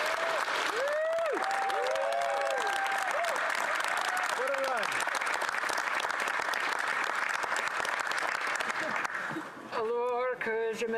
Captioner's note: some Applause